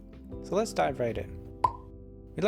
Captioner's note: pop